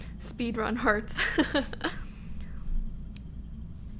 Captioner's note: she laughs